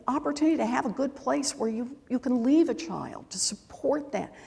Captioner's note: none